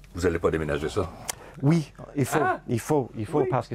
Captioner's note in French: fracas